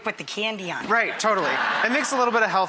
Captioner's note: audience laughs